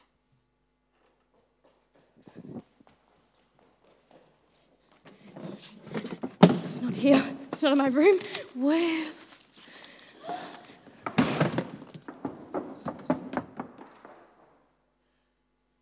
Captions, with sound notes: It's not here– it's not in my room– where... (a gasp) (a door slams open)